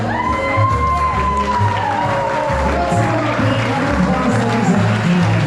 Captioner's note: applause